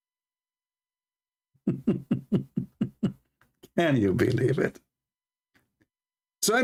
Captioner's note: Ketawa